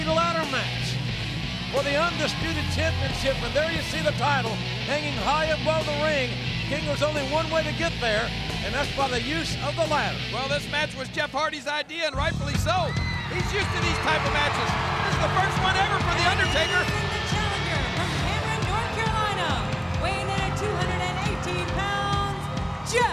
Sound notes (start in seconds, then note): 13.2 audience cheering; 13.2 upbeat music